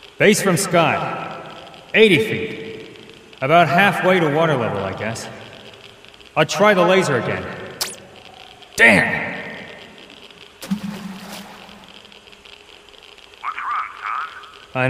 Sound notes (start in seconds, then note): 6.8 laser bleeping